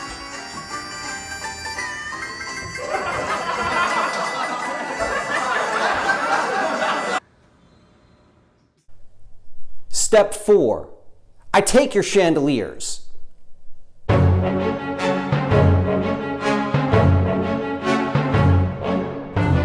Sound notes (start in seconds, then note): 2.6 canned laughter; 7.2 music & laughter abruptly stop